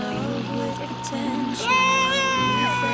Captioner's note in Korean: 함성소리